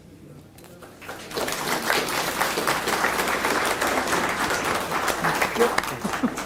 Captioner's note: applause